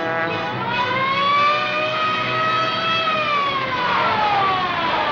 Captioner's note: siren wailing